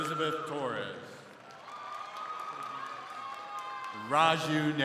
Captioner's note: crowd cheering